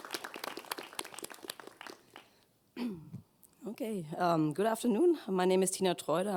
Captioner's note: applause